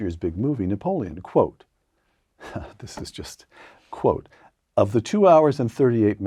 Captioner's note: laugh